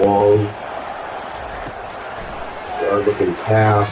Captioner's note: crowd Noises